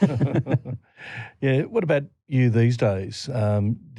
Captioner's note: laughter